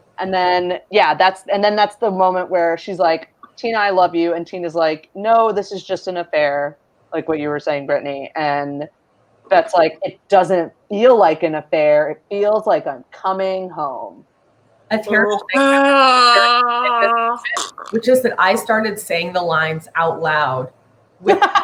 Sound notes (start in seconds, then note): 15.2 groaning and choking